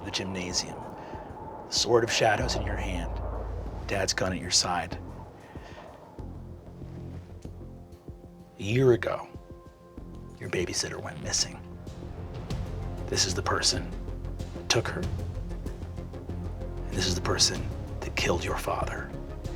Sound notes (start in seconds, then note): 6.1 wind whooshing